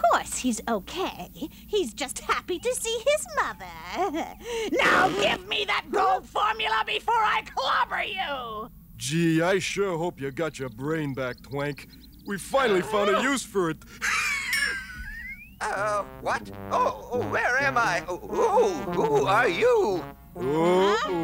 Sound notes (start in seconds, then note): 12.4 laughs